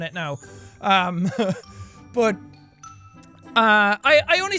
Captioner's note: chuckle